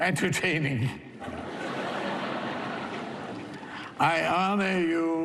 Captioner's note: laughter